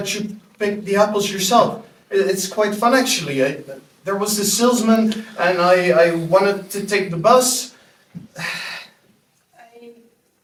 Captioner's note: sighs